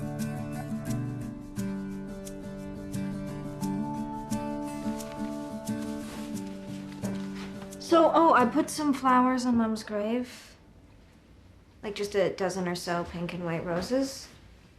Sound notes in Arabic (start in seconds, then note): none